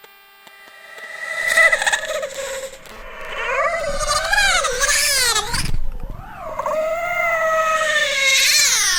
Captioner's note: specters scream and wail